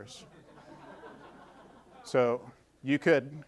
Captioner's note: audience laughing